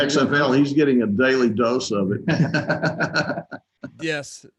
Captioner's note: chuckles